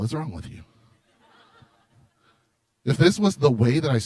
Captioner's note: laughter